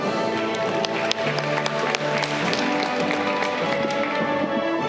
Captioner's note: audience clapping